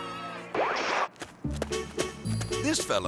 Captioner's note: screen static; melodic music